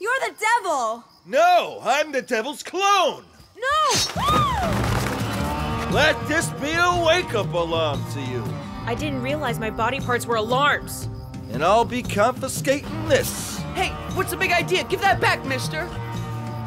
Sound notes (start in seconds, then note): 4.7 gasps